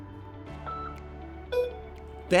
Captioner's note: beep